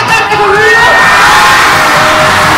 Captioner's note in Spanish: aplausos y vítores